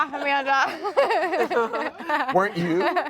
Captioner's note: all laugh